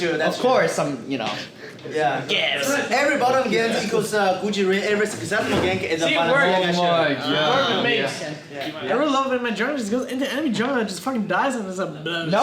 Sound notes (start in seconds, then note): 6.1 all chattering